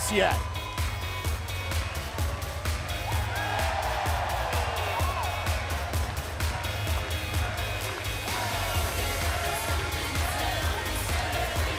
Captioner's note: crowd cheering